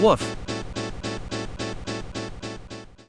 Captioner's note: corrupted error sound on loop